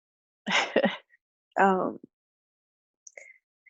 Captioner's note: chuckles